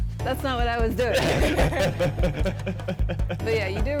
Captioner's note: both laugh